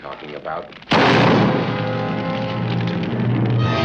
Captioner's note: gunshot